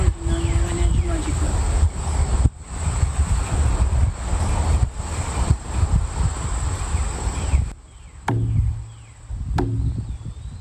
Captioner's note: speaking in French